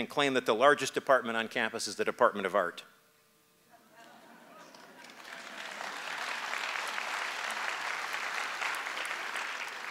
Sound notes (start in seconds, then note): 4.1 audience vocalizing approval; 7.0 applause